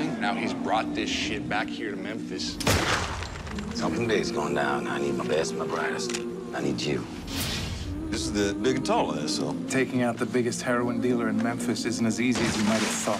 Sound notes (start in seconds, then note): 2.6 gunshot